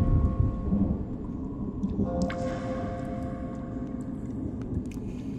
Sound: thunder rumbling; water dripping

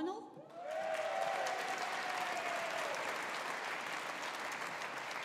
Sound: audience applauding

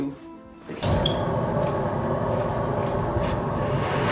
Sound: strong blowing

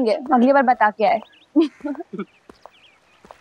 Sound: chuckling

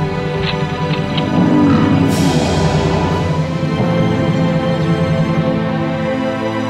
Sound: slow-motion grunt

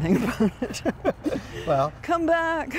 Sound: laughter

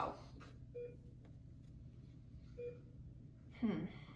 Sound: beeping

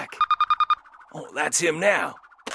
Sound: cell phone ringing

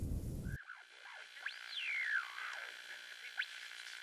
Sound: radio static

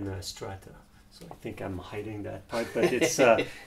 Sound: laughs

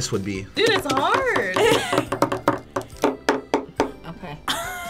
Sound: knocking on wood

